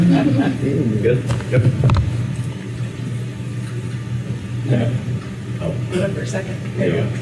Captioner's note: laughter